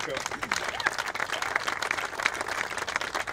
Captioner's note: applauding